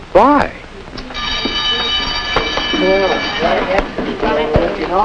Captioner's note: school bell rings; students chattering